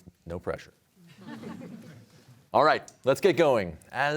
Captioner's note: audience laughs